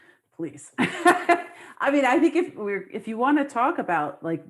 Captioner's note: laughs